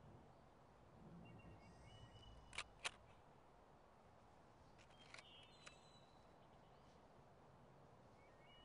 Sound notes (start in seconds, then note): 2.5 shutter clicks